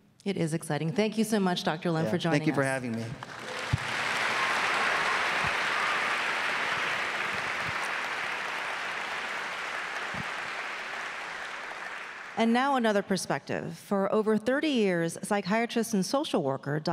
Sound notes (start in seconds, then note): 3.7 audience clapping